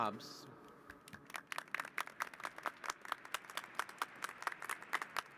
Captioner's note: applause